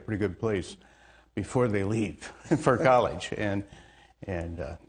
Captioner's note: laughs